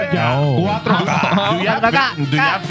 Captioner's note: speaking In Foreign Language